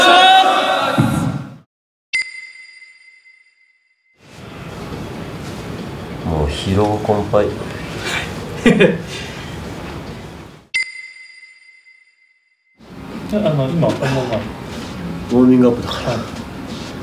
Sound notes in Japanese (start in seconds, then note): 2.2 ピックアップ 効果音; 10.8 ピックアップ 効果音